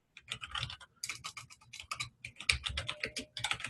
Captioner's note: typing